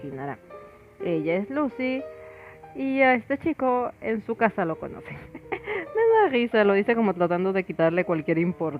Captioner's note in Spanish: risas